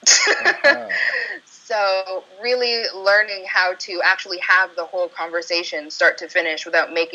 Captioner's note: chuckle